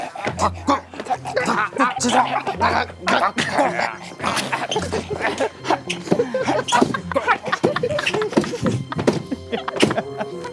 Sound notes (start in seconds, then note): 6.6 bursts out in laughter